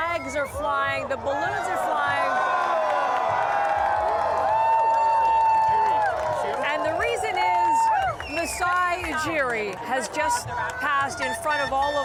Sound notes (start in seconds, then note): 5.2 cheers